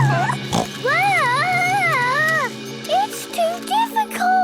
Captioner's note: children giggling; snorts